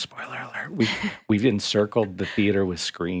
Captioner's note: chuckling